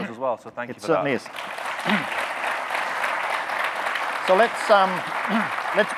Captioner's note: audience clapping